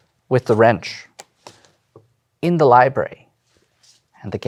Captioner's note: card slaps